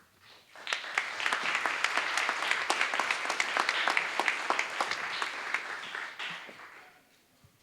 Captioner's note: applause